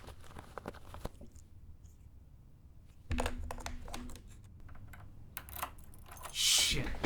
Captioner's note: door unlocking